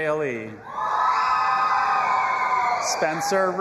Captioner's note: audience applauding and cheering